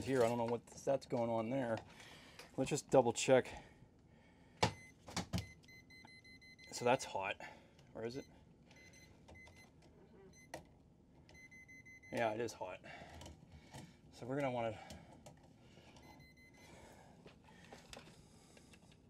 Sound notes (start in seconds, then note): 5.4 tester beeping; 9.0 tester beeping; 16.1 tester beeping